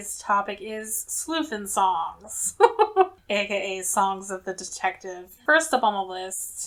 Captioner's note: laughs